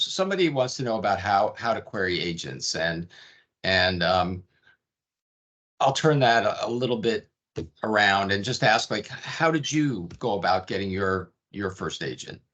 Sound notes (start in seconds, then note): none